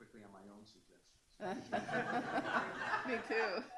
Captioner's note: laughing